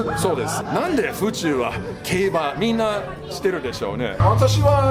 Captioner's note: laughs